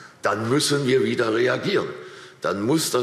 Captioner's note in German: none